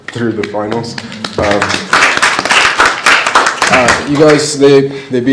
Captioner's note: applause